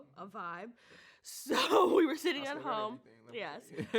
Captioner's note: speaks faintly; laughs